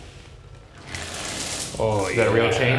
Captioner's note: chain rattling